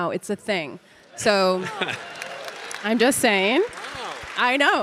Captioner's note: audience applauding